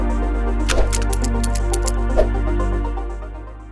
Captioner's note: seatbelt clicks